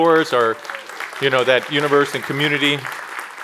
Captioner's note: applause